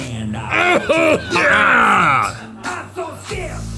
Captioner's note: coughing and retching; roaring